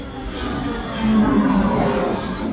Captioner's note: engine whine